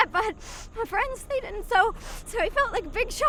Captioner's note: snivels